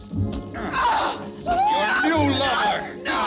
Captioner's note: screaming